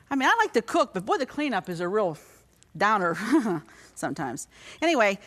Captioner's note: chuckles